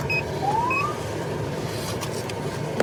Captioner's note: siren chirps